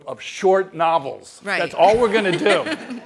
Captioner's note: laugh